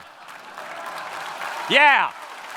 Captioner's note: audience clapping